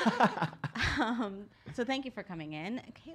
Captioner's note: laughs